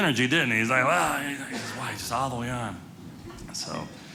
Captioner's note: audience laughing